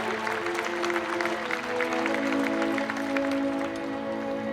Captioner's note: applause